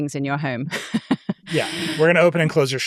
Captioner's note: chuckles